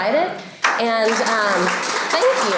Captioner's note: applause